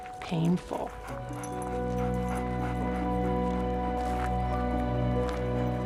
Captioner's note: music & dog panting